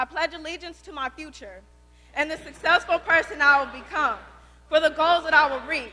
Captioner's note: students reciting the pledge